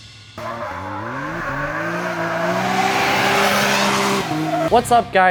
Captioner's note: engine roaring and tires screeching